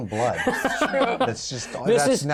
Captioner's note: laughter